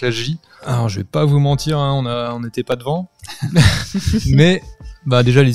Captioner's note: laughs